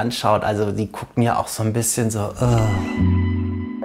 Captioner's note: groaning